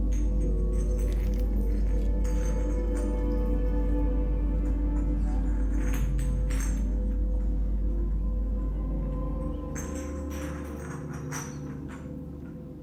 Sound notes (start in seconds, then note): 0.1 glass clinking; 9.2 gentle music continues